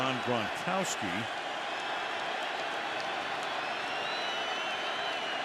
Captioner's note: crowd cheering